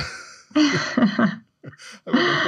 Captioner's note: laughter